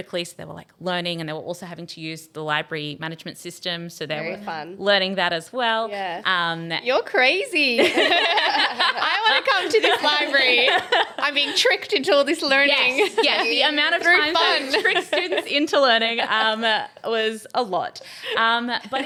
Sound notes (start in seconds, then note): 7.7 group laughing